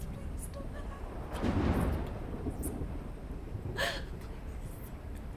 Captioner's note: thunder cracking